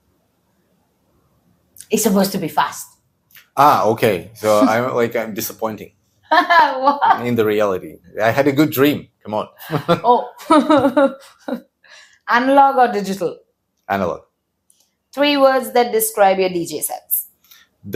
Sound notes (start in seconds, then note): 4.4 laughs; 6.3 laughs; 9.6 laughs